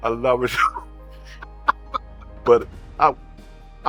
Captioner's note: both laughing